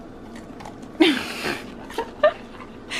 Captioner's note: laughs